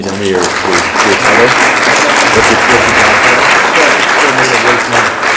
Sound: audience applauds

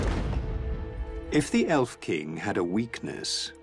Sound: narrator reading on-screen text

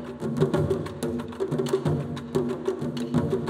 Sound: none

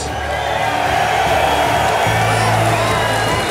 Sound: cheers

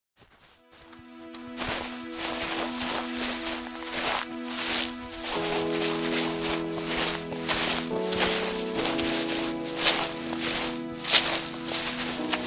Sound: footsteps

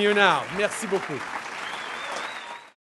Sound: cheers & applause

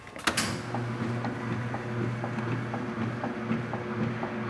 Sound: thudding of washing machine

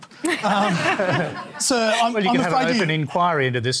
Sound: laughter

